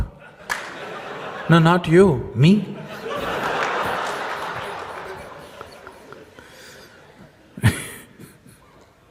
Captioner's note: laughter